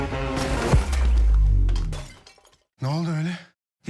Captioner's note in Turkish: cam kırılma sesi